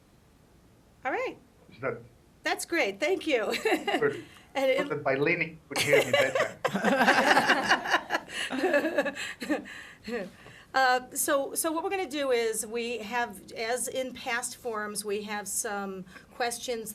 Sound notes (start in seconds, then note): 8.2 laughter